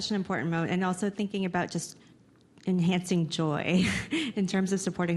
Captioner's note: laughs